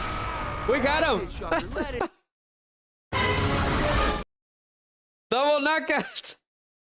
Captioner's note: screaming and groaning; laughter